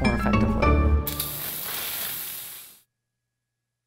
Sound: spraying silly string

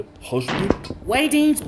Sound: door Break In

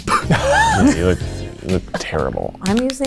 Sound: laughs

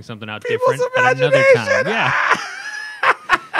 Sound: laughter

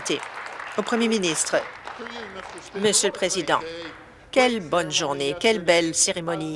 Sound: applause

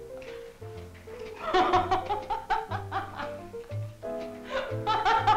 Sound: Gypsy laughing

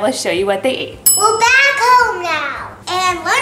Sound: timer dings

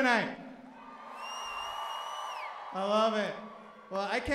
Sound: cheering

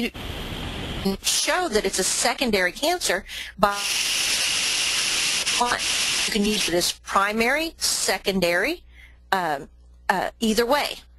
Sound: audio static

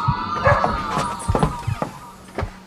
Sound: dog bark

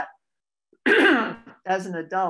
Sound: clears throat

